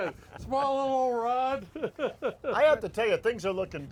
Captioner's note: man laughs